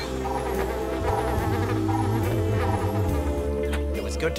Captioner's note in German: Signal ertönt; summend